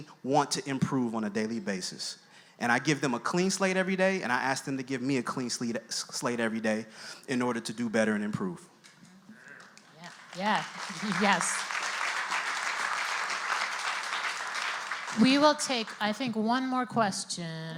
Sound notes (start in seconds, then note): 9.4 voiceover; 11.4 audience applauds